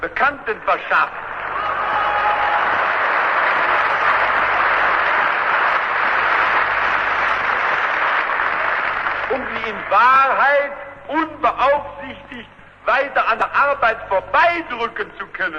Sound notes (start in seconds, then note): 0.9 booing, Applause